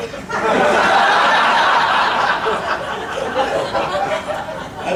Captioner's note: audience laughing